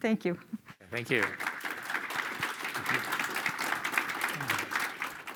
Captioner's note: applause